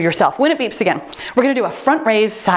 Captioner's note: timer beeps